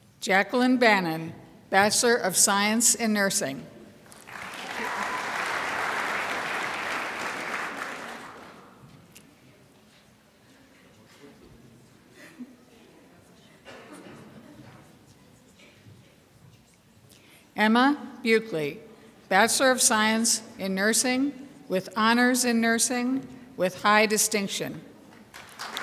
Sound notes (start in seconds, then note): 4.1 crowd applauds